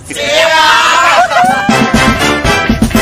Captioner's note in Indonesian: berteriak